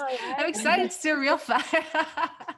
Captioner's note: laughs